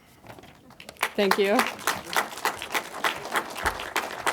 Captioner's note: crowd claps